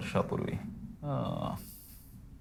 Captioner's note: Mr. Nimkar groans